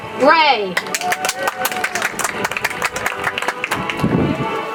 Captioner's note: audience applauds